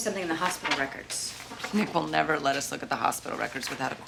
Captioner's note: none